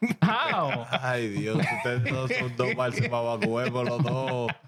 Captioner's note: laughing; speaking In Foreign Language